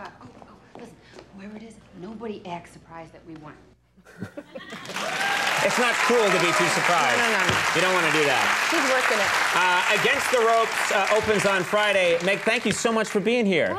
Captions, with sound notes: Whoever it is, nobody act surprised that we won. (audience cheering) It's not cool to be too surprised. No no no. You don't wanna do that. She's workin' it. "Against The Ropes" opens on Friday. Meg, thank you so much for being here.